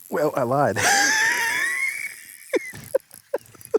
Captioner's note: laughing